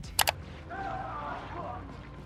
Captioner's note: screen clicking; characters shouting